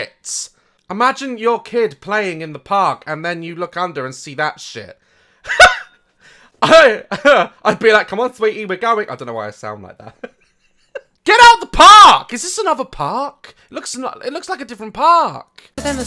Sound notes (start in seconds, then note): 5.5 laughs; 7.0 girly voice; 10.9 laughs